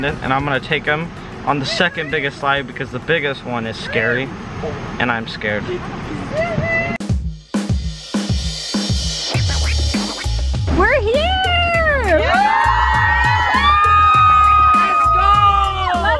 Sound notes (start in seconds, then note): 11.1 everyone cheering